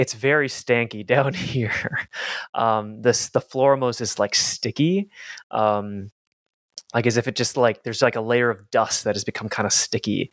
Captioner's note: chuckles